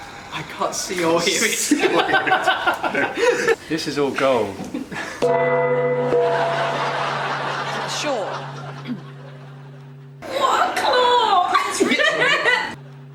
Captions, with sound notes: I can't see or hear it... [All laugh] This is all gold... [Bong] Sure... [Coughs] What a claw! [Laughs]